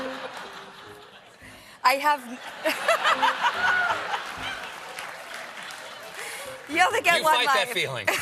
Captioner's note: laughter; piano riff; laughter